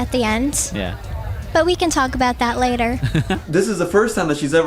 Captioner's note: laughs